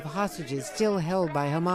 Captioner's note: crowd chanting